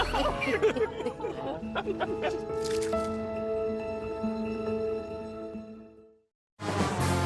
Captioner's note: laughter